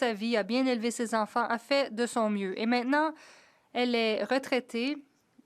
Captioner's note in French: voix de l'interprète